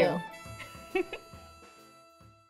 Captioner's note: laughter